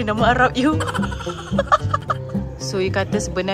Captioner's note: laugh